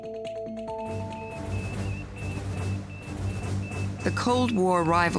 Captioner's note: dramatic music; electronic beeping